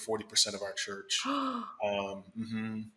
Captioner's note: gasps